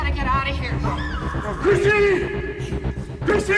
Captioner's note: chrissy screams